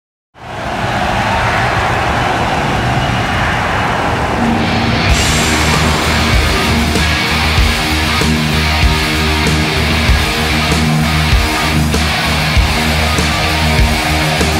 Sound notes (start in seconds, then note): 0.2 crowd cheering; 4.9 energetic rock music